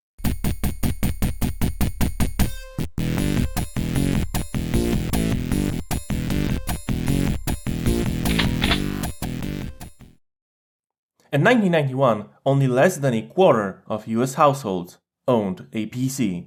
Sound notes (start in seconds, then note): 8.2 shotgun load